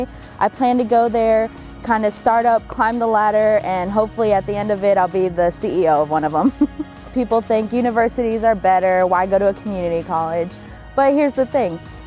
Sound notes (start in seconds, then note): 6.4 laughter